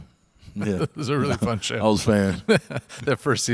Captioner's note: laughs